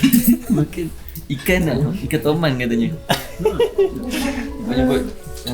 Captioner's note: laugh